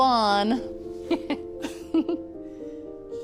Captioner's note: both laugh